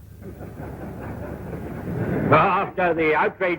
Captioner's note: audience laughs